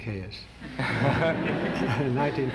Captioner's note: laughter